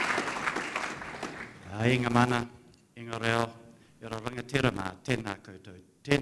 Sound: speaks in a foreign language

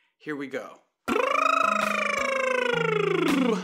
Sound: lips buzzing

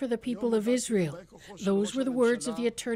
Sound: speaking foreign language

